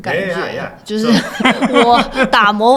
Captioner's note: laughter